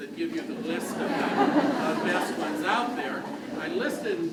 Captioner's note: crowd laughs